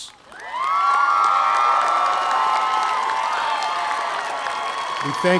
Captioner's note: audience applauding